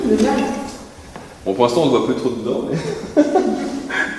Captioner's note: laugh